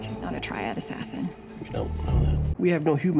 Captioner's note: quietly